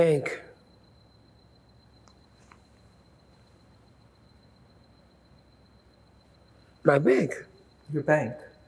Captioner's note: pauses 6 seconds